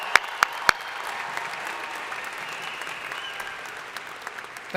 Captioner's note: crowd applauding